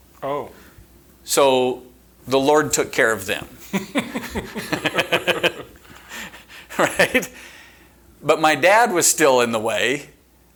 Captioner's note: chuckling